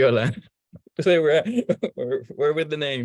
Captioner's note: laughing